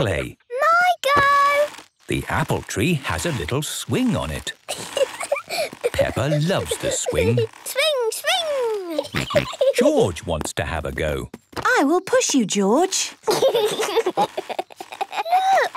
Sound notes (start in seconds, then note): 4.6 giggling; 8.4 giggling and snorting; 13.2 George giggling